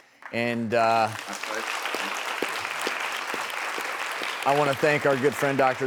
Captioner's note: audience clapping